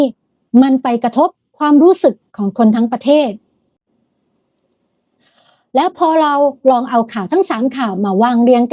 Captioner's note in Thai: เสียงสูดหายใจ